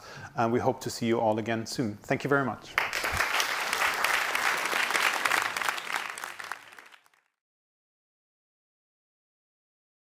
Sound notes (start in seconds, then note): 2.7 audience clapping